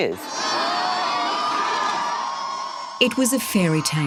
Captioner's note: cheering